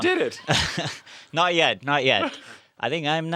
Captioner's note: laugh